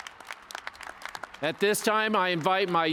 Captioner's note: cheers and applause